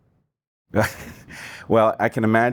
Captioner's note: laughter